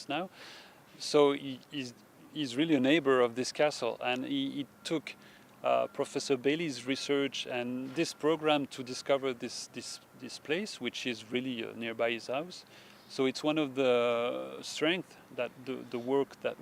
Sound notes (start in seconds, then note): none